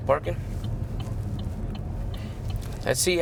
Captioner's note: car turn signal clicking